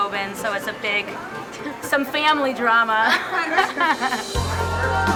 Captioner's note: laughing